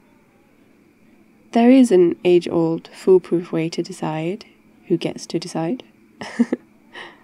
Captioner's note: laughs